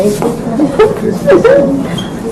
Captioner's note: cries